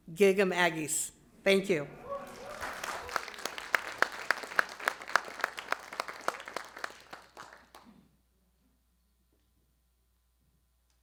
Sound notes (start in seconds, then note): 2.0 audience clapping; 8.2 silence